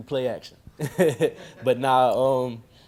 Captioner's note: laughing